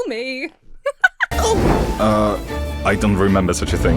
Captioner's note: Emma laughs; barista shouts in surprise